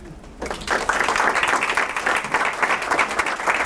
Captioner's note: applause